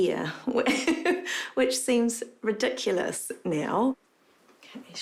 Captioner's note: laughs